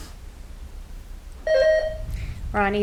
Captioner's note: buzzer ringing